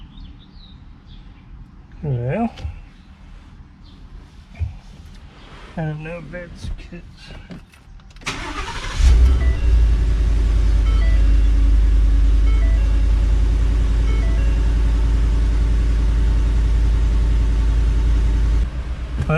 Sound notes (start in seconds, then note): 6.5 speaks faintly; 8.2 engine starts